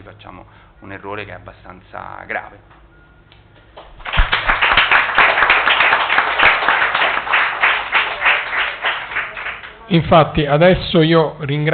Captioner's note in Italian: Applauso